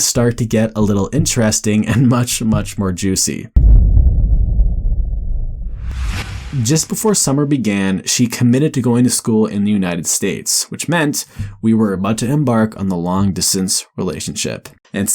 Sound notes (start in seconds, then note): 3.6 dramatic rumble